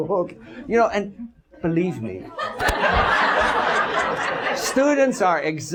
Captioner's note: audence laughs